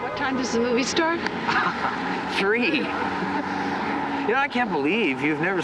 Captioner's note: chuckles